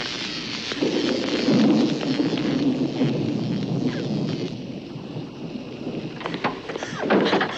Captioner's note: thunder rumbles